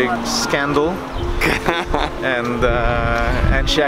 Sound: laughter

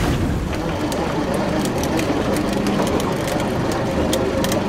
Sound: reel whirring

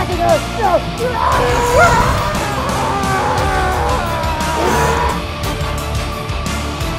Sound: man screaming; intense music

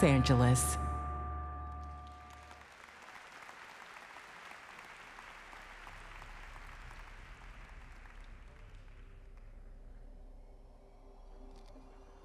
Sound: applause

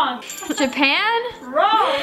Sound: bell tinkling

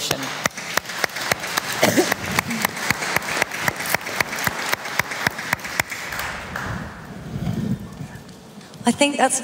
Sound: applause

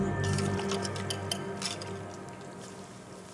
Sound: cooking... Stirring sound

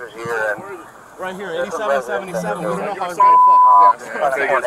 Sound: radio dispatching in background; beeping; background talking

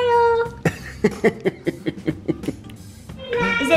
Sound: laughing

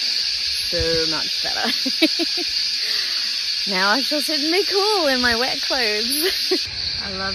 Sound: giggles

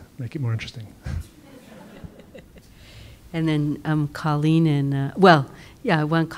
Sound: laugh

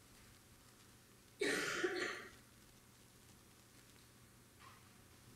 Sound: audience member coughing

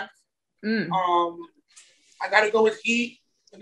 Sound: mmms

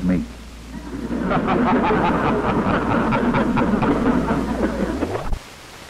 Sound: laughter

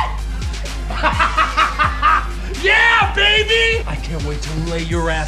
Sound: laughs

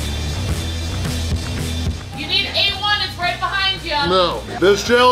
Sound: crowd

